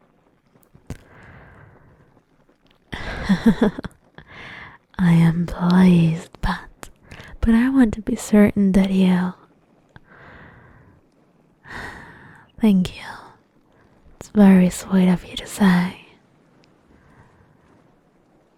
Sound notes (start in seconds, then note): 3.0 chuckles